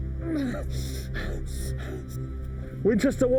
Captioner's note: Jim panting